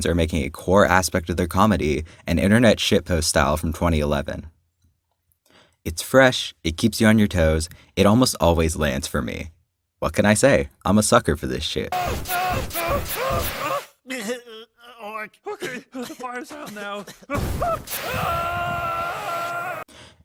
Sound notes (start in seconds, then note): 11.9 screaming; 13.8 coughs; 17.3 screaming